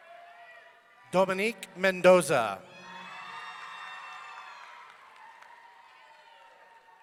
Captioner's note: audience cheering